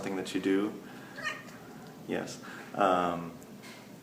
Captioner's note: meow